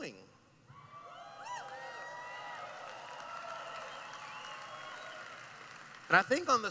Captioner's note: cheering